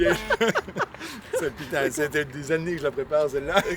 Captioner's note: laughters